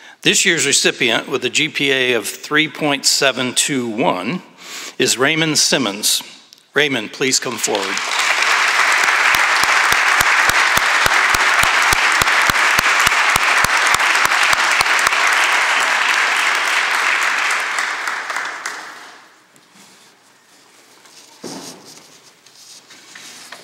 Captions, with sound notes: This year's recipient, with a GPA of 3.721, is Raymond Simmons. Raymond, please come forward. [Applause]